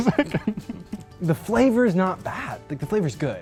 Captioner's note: laughs